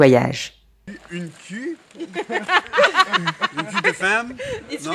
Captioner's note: speaking french